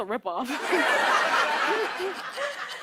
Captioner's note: laughter